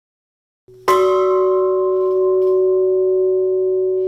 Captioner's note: bell ringing